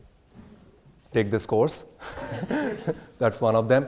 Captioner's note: laughs